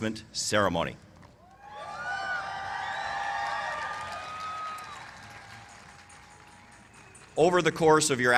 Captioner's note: cheers and applause